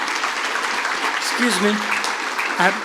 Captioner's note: applause